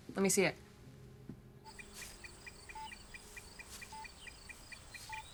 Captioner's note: beeping